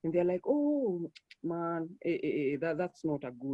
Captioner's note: clicks tongue